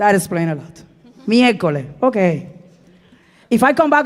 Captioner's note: speaking in Spanish